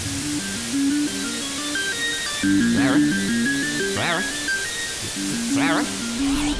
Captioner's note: volume dips, noise rises, pitch fluctuates